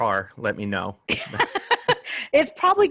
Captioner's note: laughter